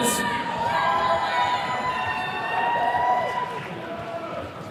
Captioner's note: attendees cheering